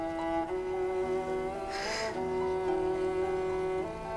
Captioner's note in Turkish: Gülüyor